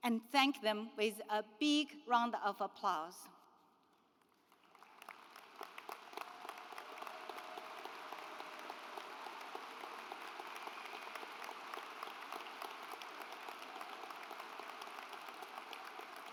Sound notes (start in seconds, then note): 5.5 graduates applaud